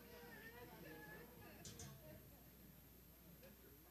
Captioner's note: chattering